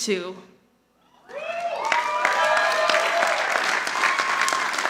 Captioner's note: audience applauding